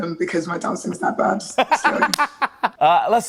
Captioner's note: laughing